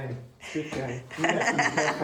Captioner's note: laughter